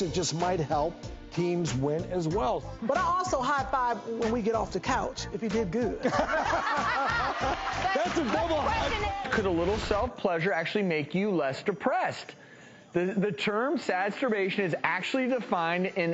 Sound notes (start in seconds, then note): 6.0 audience laughing